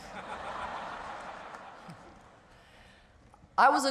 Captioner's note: audience laughs